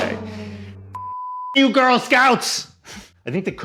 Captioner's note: beep